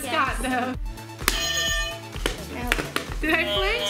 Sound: bell dings loudly

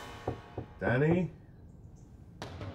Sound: knocks on door

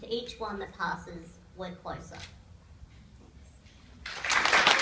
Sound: applause

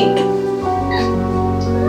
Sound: meow

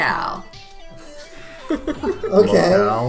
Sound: laughing

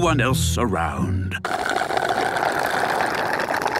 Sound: slurping

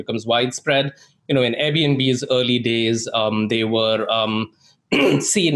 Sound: clears throat

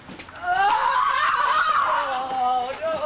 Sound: ferocious, high-pitch scream

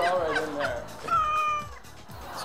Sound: meows

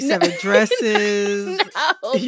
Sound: laughter

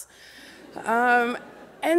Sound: laughter

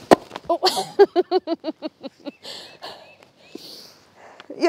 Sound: Claire laughing

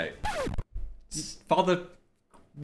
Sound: record scratches

